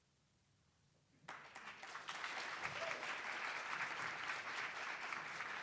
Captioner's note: attendees applauding